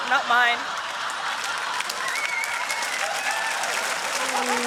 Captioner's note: laughter; cheering and applause